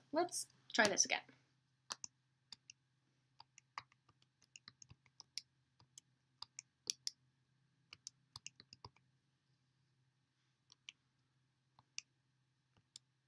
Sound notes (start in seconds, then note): 1.9 clicking